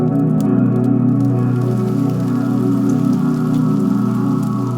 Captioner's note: food sizzling